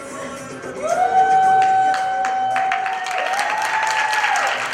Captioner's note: applause